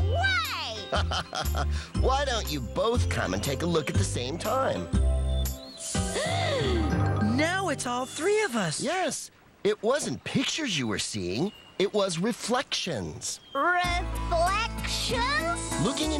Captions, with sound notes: NO WAY! ( Laughs ) WHY DON'T YOU BOTH COME AND TAKE A LOOK AT THE SAME TIME. ( Both Gasp! ) NOW IT'S ALL THREE OF US!!! YES! IT WASN'T PICTURES YOU WERE SEEING, IT WAS REFLECTIONS! REFLECTIONS?